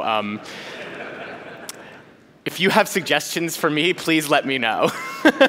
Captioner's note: laughter